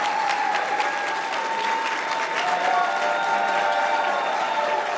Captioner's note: applause